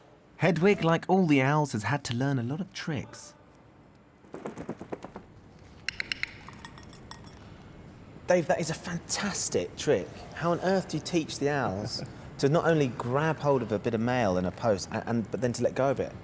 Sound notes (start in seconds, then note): 5.8 clicking